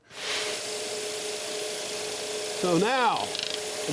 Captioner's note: scroll saw buzzing